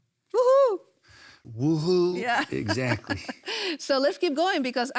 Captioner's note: laughs